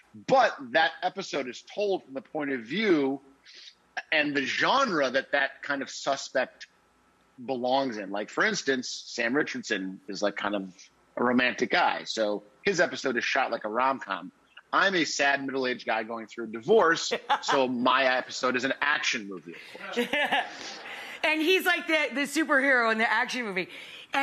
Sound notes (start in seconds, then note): 20.0 laughs